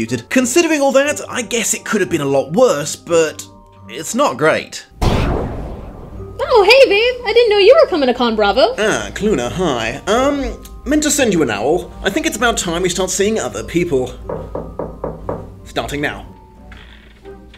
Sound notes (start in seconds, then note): 5.0 teleport noise; 14.2 five knocks at the door; 16.5 door creaks open